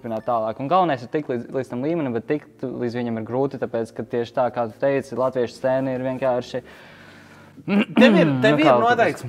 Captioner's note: clears throat